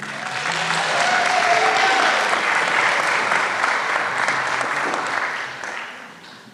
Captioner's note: applause